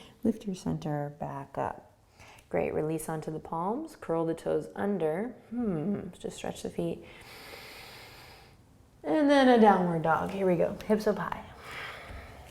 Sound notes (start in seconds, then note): 7.1 inhaling